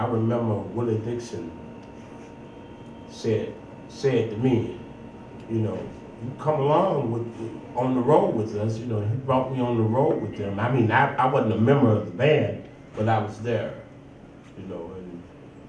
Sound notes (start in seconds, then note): none